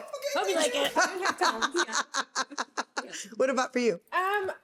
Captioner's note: laughing